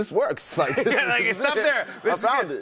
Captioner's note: laughter